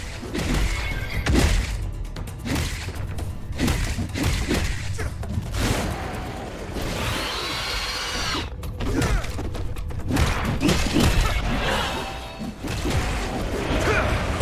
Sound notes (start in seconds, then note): 0.3 dramatic music; 6.7 monsters screeching